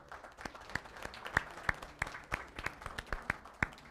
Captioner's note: applause